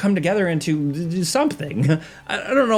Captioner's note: laughing